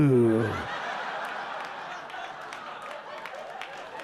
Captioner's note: audience laughing